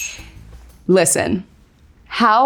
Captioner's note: cup clinks